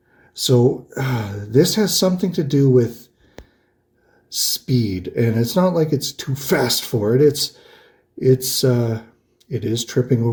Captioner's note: sighs